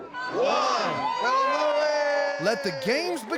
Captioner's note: everyone cheering